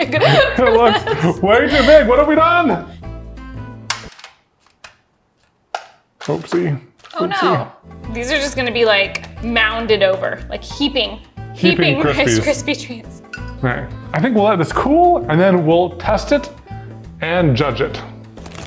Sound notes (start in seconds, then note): 0.0 laughs; 3.8 cereal thunks; 3.8 music stops